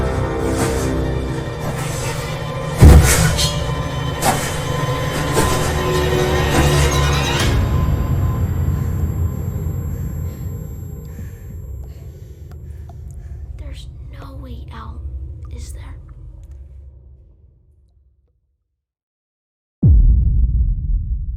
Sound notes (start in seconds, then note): 0.1 metal armor clanking; 9.0 heavy breathing; 13.1 hushed